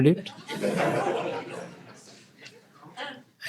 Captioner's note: laughter